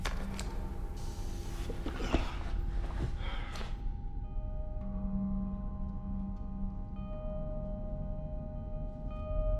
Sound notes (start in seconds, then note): 0.8 air hissing; 6.5 somber music playing